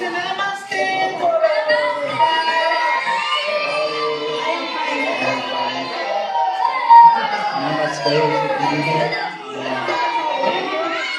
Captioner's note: children cheering